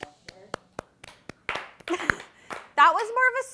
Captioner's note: crew claps slowly; chuckles